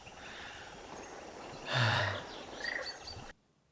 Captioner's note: sigh